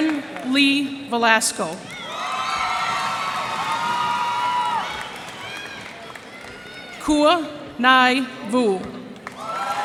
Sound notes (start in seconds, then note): 1.8 cheers and applause